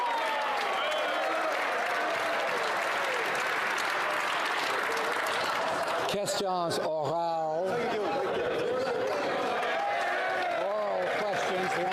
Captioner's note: cheering and Applause